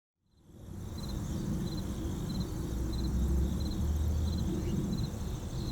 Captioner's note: crickets chirping